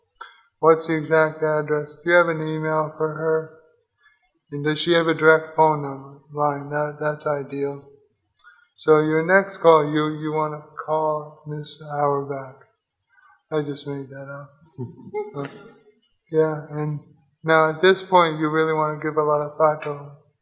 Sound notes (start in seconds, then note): 14.9 audience laughs